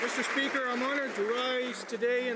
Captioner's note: some Applause